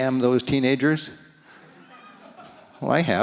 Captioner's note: audience laughs